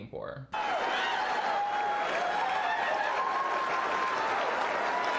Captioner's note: audience cheering